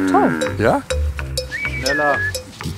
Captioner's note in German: Pfeifen